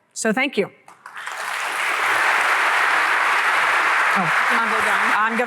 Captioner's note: applause